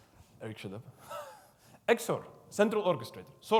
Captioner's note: laughs